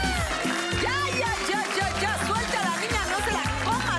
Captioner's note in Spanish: Gritos y exclamaciones